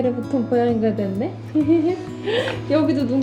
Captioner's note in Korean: 웃음